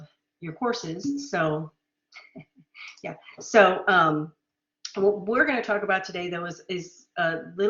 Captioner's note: laughter